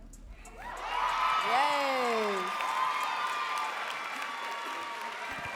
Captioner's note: audience cheering and clapping